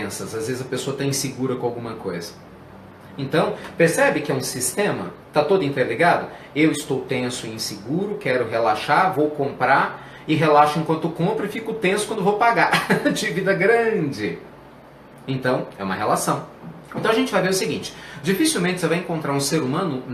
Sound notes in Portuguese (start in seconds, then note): 12.7 risos